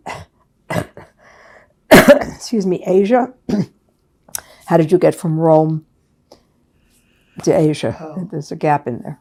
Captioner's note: coughing